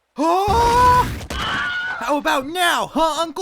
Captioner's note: Wilhelm Scream